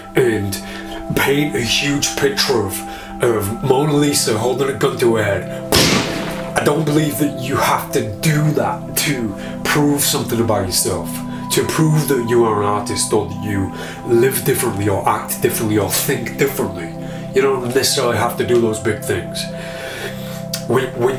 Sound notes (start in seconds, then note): 5.7 gun shooting